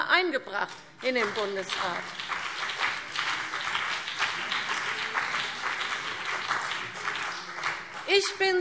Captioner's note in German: Beifall CDU und BÜNDNIS 90/DIE GRÜNEN